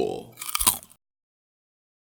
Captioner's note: Crunch